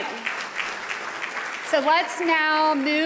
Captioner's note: audience applauding